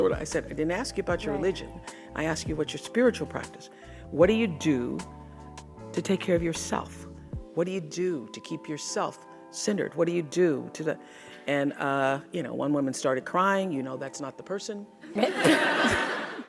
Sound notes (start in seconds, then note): 15.1 audience laughing